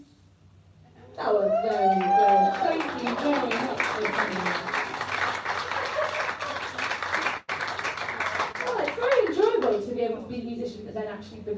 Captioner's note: applause